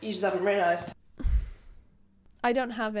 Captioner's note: sigh